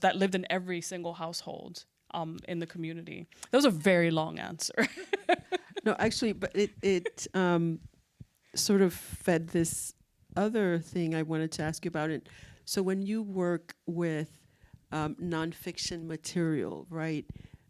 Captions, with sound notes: that lived in every single household in the community. That was a very long answer. (laughs) - No, actually, it sort of fed this other thing I wanted to ask you about it. So when you work with nonfiction material, right,